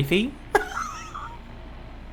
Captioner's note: laughs